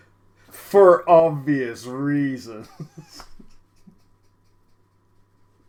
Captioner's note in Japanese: 笑う